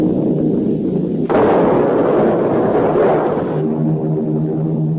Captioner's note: plane engine revving; explosions booming; plane engines revving